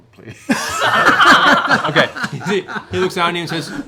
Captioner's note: laughter